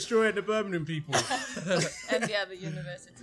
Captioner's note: laughter